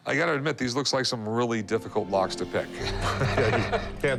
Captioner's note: laughs